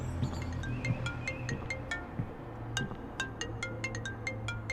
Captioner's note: phone ringing